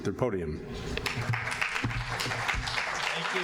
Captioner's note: audience applauding